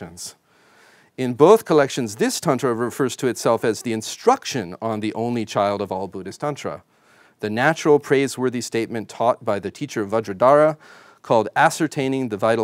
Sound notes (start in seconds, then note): none